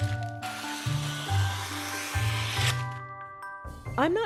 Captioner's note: scissor ASMR